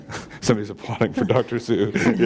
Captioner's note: chuckle